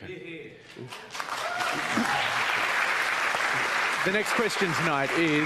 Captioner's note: cheering and applause